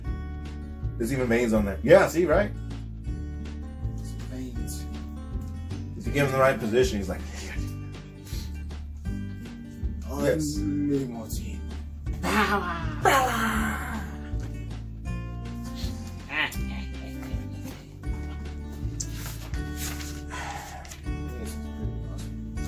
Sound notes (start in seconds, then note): 8.8 mimics monster sounds; 12.2 laughing